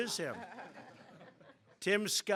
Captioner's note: laughter